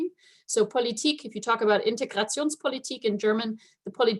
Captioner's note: speaking German